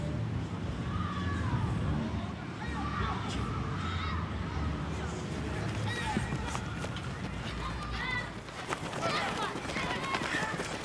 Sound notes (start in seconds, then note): 0.7 people shouts; 6.7 footsteps rustles